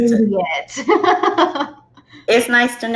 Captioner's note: laughs